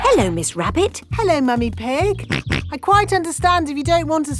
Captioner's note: snorts